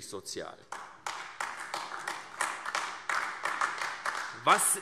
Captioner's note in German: Beifall AfD